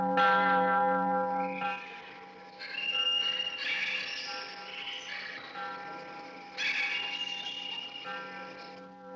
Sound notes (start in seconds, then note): 0.9 bell Continues; 2.7 birds Squawking